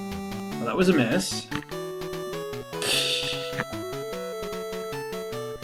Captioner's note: tittering